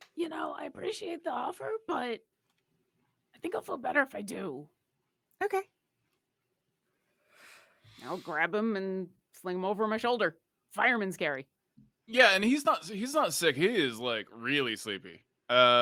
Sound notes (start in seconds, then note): none